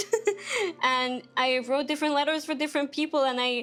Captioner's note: laughing